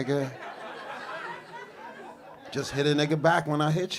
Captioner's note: audience laughing